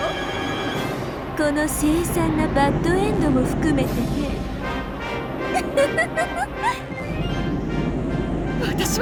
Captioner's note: giggle, giggle